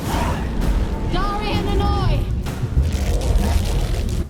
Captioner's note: shouts incantation